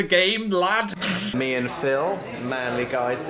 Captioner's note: snickers